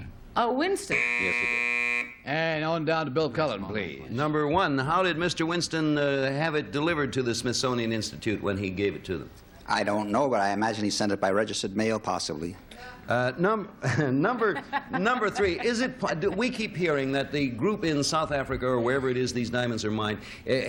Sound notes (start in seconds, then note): 3.1 buzzer; 13.9 laughs